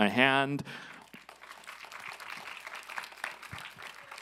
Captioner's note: applause